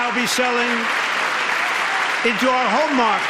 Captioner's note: applause